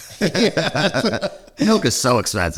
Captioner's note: both laughing